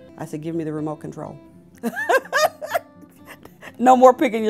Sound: laughter

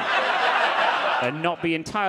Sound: audience laughing

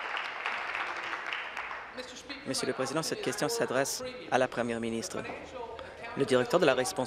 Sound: applause

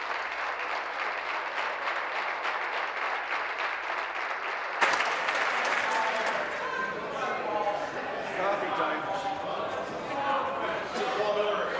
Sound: applause

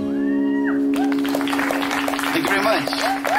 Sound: applause

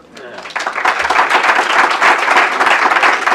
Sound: applause

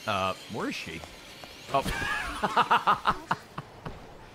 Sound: laughs

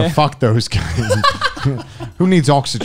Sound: men laughing

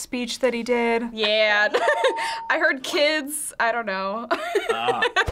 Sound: laughing

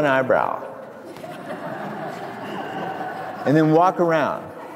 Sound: crowd laughs

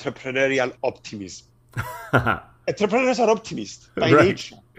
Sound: laugh

